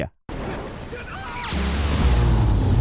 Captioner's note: passersby yells; electricity whirring